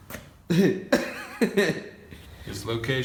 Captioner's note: laughing